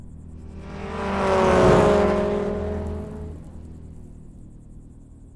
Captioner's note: car engine rumbling